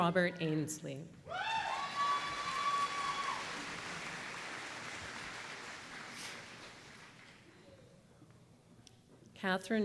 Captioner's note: applause